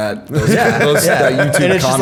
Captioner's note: laughter